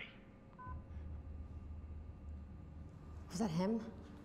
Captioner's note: beeps